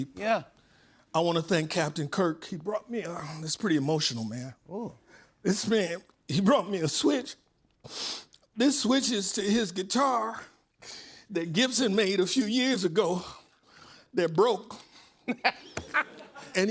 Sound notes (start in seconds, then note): 7.9 sniffles; 15.3 laughs